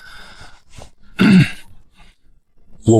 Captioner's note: cough